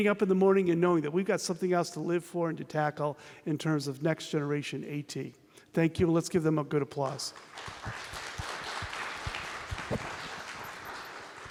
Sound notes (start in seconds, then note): 10.0 applause